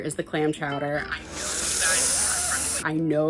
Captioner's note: inhaling